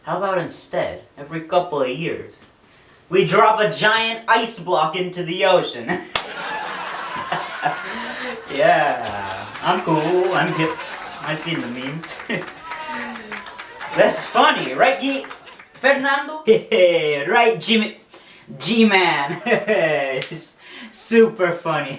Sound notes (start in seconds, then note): 5.5 laughing; 12.3 clapping